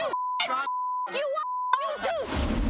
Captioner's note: beep